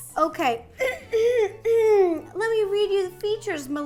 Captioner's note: loudly clearing throat